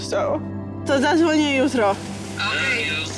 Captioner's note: in Polish